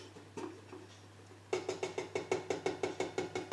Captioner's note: carton tapping against pan